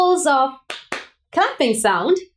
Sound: hand clapping

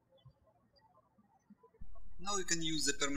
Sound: birds chirping

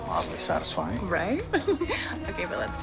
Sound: laughs

